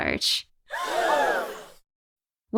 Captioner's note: crowd gasping